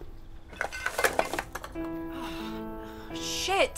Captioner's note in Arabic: علبة تصطدم